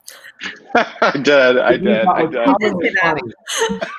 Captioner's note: group laughing